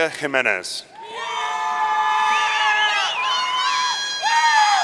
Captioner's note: audience cheering